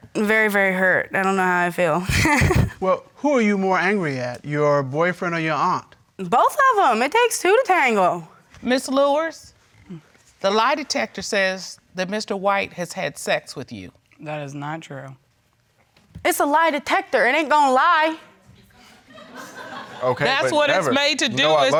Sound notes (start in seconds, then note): 2.0 chuckles; 16.1 audience laughing